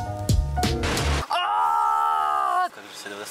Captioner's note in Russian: крик